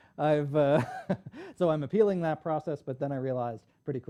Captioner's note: laughs